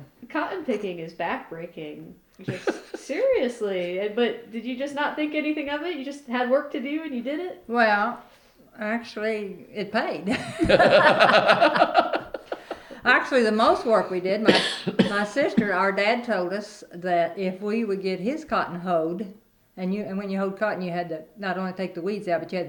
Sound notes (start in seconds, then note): 10.2 laughter